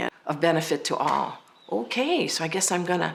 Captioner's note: none